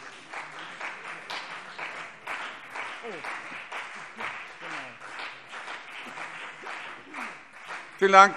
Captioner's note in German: Beifall CDU und vereinzelt BÜNDNIS 90/DIE GRÜNEN